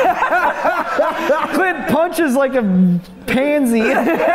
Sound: laughter; laughter

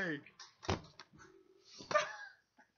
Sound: thud

